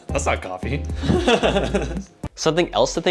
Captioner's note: laughter